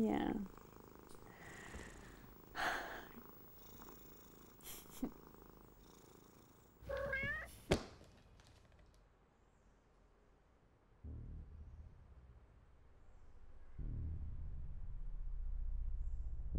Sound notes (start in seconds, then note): 2.5 Erin sighing; 6.8 Walter meowing